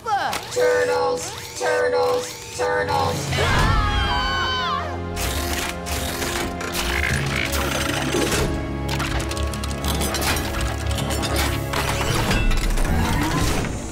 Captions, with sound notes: Turtles. Turtles. Turtles. [screaming] [clanking] [clanking]